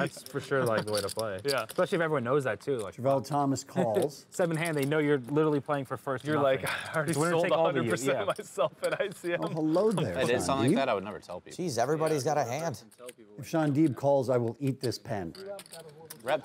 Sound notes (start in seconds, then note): 6.0 table chatter